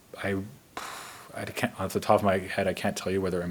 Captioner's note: puffs